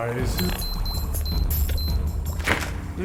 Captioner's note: beeping